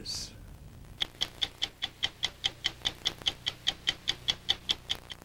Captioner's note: stopwatch ticking